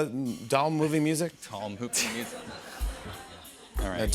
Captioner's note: laughter